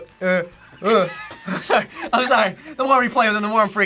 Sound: React laughs

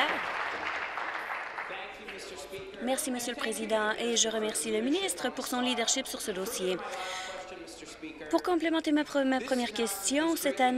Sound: applause

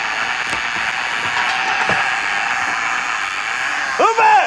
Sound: reel spins

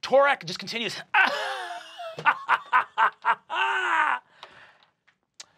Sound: laughing

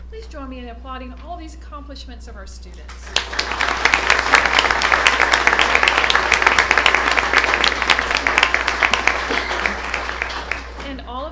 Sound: applause

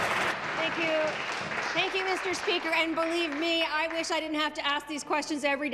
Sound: applause

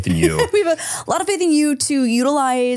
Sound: laughs

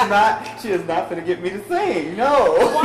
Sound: laughs

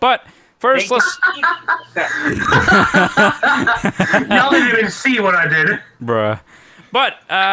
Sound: laughing

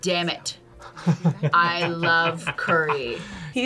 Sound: chuckles

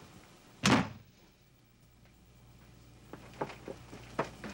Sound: door slams

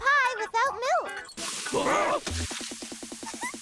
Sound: growling; laughing

